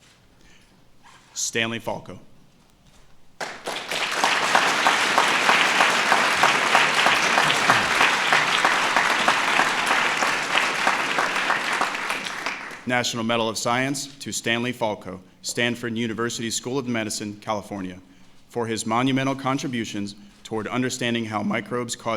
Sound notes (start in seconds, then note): 3.4 applause